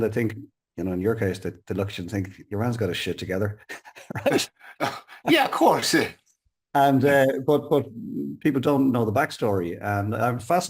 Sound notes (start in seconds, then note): 3.7 chuckles